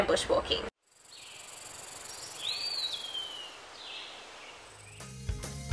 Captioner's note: snake hissing in a jungle